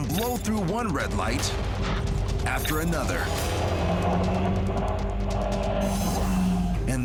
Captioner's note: car engine revs